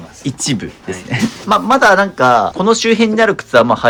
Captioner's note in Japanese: 笑い